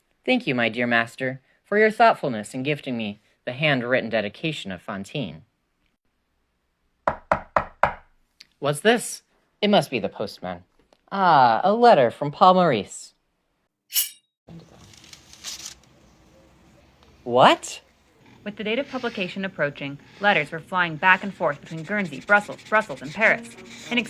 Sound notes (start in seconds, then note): 6.9 knocking; 14.6 slicing noise, paper rustling